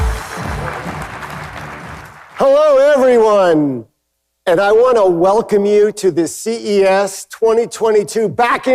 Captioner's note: applause